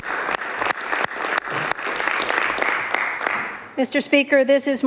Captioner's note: applause